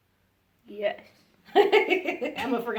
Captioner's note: laughs